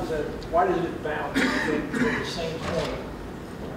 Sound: man coughing

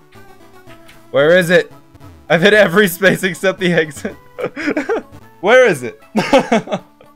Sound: laughs

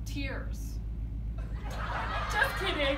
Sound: audio of laugh track

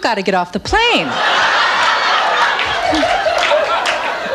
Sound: audience laughs

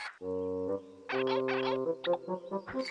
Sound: squeaking

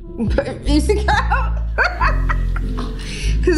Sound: laughing

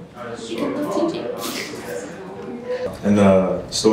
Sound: laughs

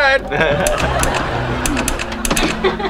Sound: laughing

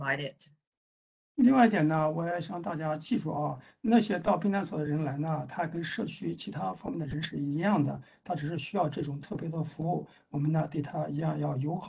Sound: speaks in Mandarin

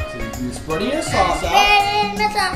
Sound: voiceover

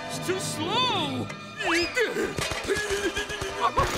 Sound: grunting

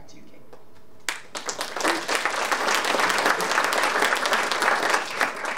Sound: audience applauding

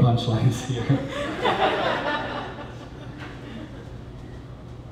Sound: laughter

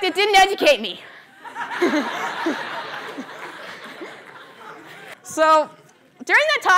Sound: laughter

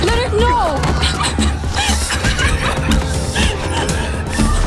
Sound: woman crying

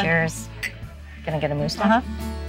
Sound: cups clinking

